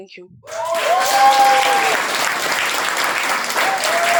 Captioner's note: applause